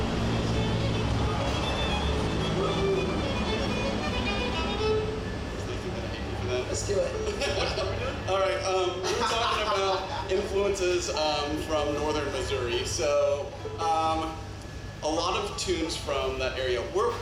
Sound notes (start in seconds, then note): 0.0 lively fiddle music; 8.8 laughs